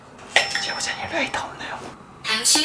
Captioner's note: whispering